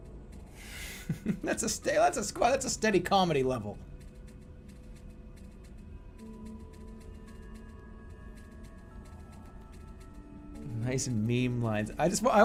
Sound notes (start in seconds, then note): 0.8 giggling